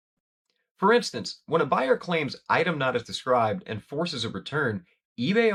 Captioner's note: voiceover